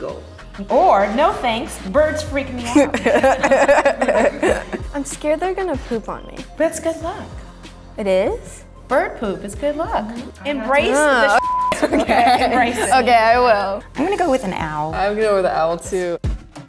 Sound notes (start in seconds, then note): 2.7 all laugh; 11.2 beeps; 11.7 Ella laughs